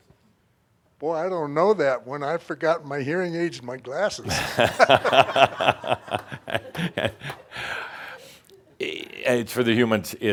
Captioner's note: they laugh